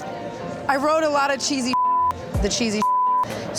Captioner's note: beep